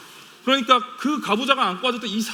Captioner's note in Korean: none